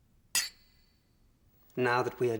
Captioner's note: clinking